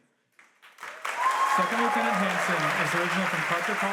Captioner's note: audience applauds and cheers